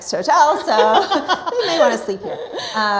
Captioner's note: both laughing